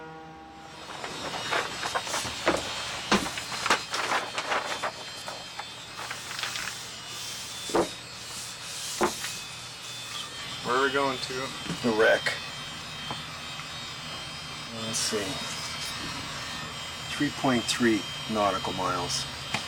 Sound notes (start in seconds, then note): 1.1 engine whirs; 3.4 paper crinkles